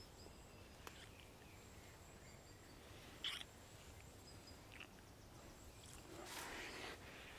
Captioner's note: birds chirping; lips smacking